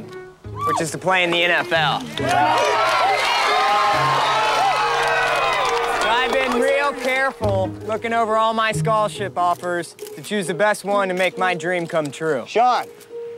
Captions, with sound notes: know that I have a dream, which is to play in the NFL. [All Cheering] I been real careful lookin' over all my scholarship offers... to choose the best one to make my dream come true.